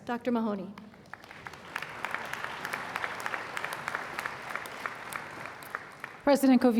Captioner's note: applause